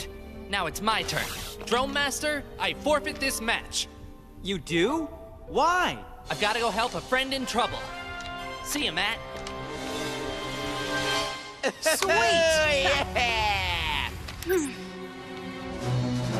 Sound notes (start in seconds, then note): 11.5 cheering